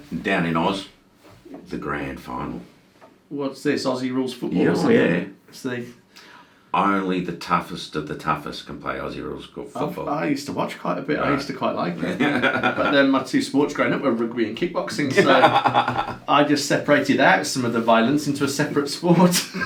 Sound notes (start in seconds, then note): 12.0 laughs; 15.0 laughs